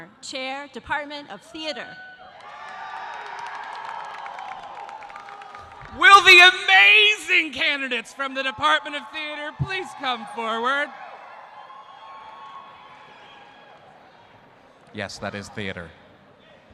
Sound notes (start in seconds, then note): 2.2 audience cheering; 2.3 audience applauding